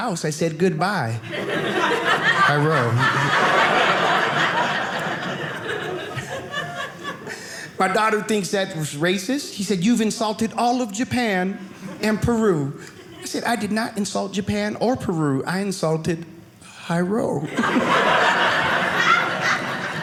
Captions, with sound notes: I said, "Goodbye, Jairo." (audience laughing) My daughter thinks that was racist. She said, "You've insulted all "of Japan "and Peru." I said, I did not insult Japan or Peru, I insulted Jairo. (audience laughing)